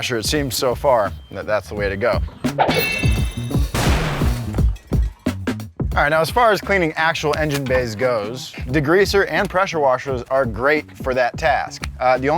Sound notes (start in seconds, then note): 2.6 explosion bangs; 2.7 bell chimes; 3.8 whip cracks